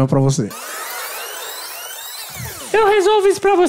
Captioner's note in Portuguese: fita rebobinando